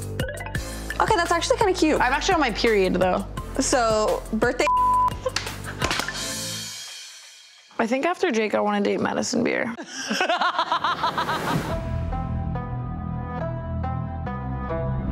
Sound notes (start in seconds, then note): 5.1 laughing; 9.7 Tana laughing; 11.8 fusion music